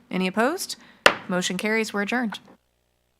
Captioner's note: gavel